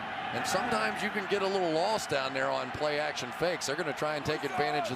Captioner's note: cheering